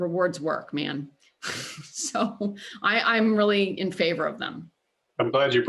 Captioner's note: laughter